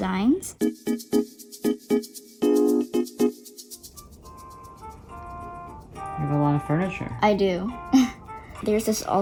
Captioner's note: game music; soft laugh